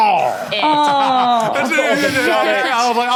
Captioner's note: laughs